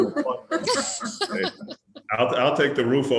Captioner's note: laughs